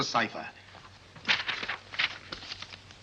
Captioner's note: paper rustles